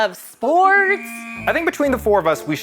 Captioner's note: whistle blows